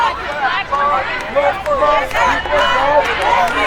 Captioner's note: crowd chanting